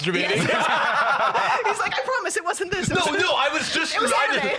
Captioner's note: laughing